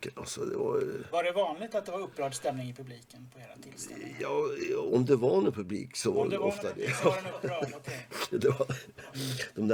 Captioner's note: laugh